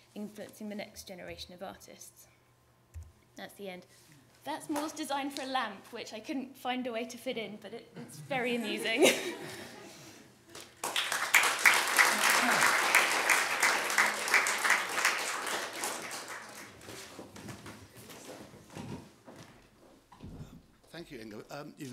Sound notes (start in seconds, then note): 8.4 laughter; 10.5 applause